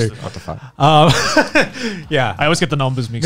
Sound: laughing

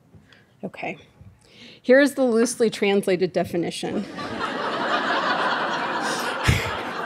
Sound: laughing

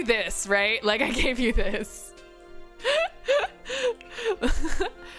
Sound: laughs

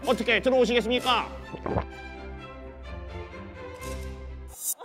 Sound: gulp

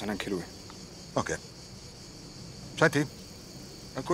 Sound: cicadas chirring

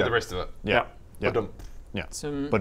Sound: badumpf

